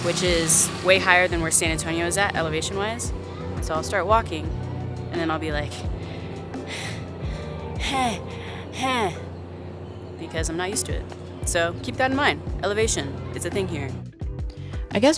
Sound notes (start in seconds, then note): 5.8 panting loudly; 14.1 soft music